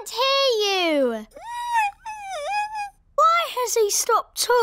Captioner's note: squeaks